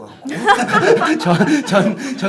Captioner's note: laughing